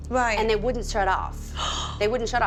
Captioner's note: gasps